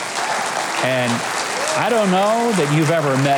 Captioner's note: crowd claps